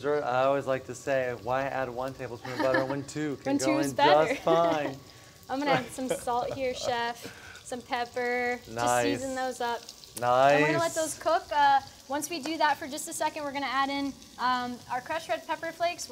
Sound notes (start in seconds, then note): 2.4 laughter; 5.6 laughs